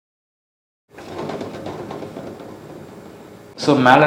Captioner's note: speaker noise